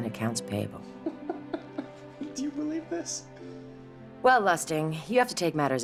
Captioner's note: giggling